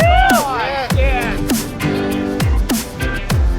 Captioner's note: men whooping; upbeat electronic music